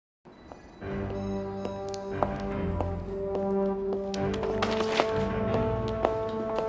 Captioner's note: dramatic music; clicking of footsteps